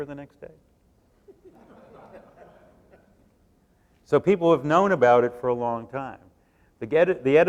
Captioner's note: laughter